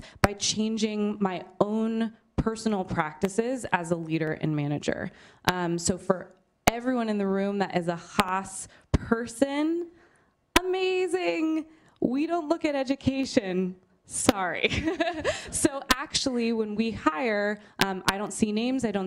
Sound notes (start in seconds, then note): 14.6 laughter